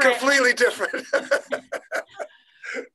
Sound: laughing

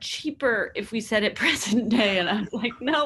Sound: laughs

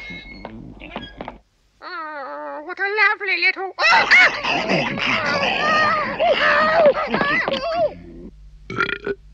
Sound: burps

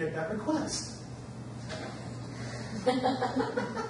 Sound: audience laughs

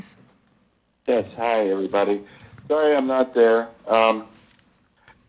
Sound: bell

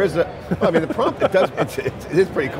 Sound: laughs

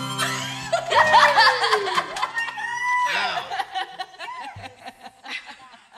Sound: laughter

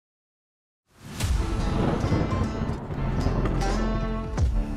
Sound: thunder rumbling

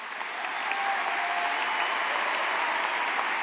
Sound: cheers and applause

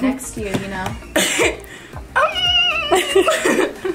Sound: laughs

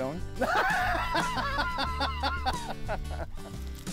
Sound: laughs

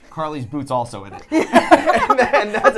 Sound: laughing

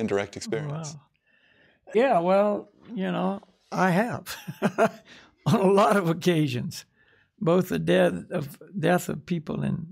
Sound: laughs

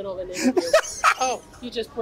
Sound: laughs

